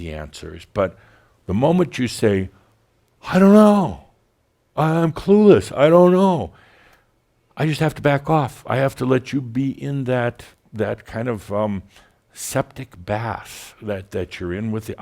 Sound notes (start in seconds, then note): none